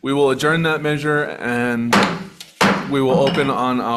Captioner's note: chair hitting gavel